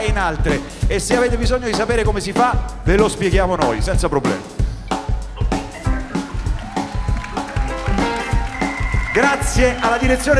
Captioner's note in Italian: Applauso